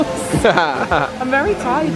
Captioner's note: laughing